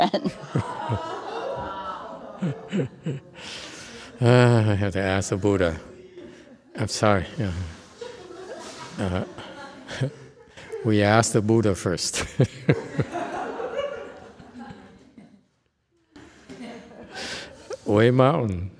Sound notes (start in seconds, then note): 11.5 laughs